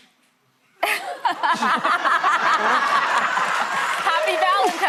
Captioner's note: laughter